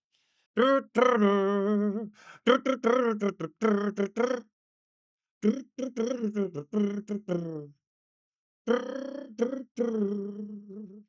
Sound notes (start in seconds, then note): 1.6 imitates music